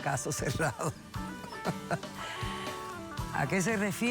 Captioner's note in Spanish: risas